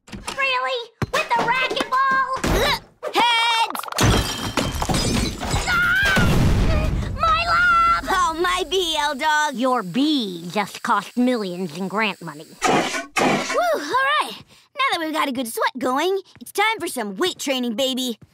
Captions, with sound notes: Really? With the racquetball? Heads! [crashing] [screaming] - My lab! - Oh, my B, L-dawg! Your B just cost millions in grant money. Woo, alright! Now that we've got a good sweat going, it's time for some weight training, baby!